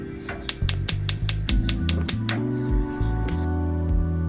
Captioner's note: stove clicking on